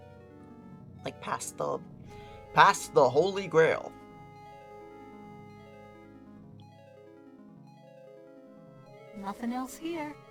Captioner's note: deep voice